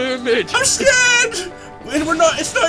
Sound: yells

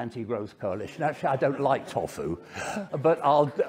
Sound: audience laughing

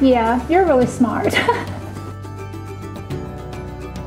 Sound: laughs; upbeat music

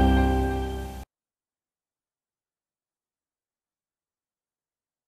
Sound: silence

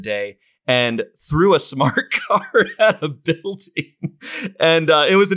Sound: laughs

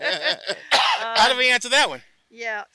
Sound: laugh; coughs

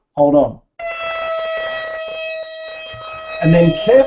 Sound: buzzing

